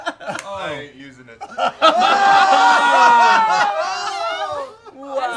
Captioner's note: yelling